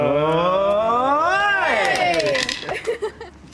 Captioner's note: all cheer